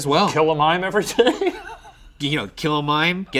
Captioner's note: chuckling